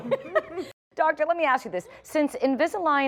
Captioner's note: laughter